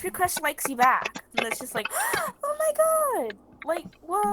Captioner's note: gasp!